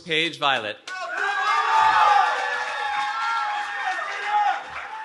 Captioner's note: cheering